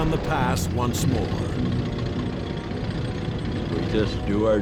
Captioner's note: tank engine whirring